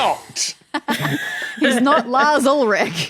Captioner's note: group giggling